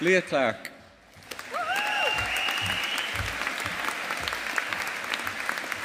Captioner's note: audience applauding